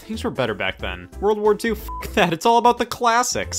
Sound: beep

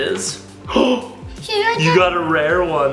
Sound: gasps

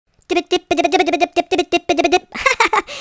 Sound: beatbox

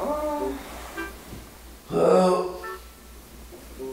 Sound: moaning from every corner

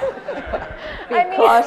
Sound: laughter

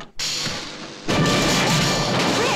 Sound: explosives detonate

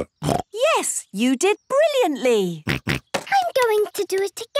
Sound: snorts

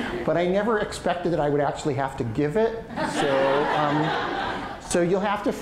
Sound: audience laughter

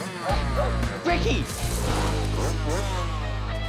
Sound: engine revving

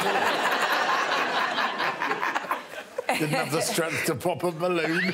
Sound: all laughing

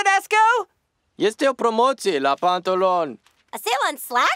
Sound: non-english speech

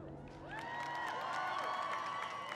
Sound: cheering and applause

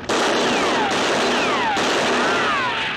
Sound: gunshots

